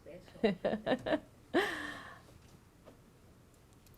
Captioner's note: laughs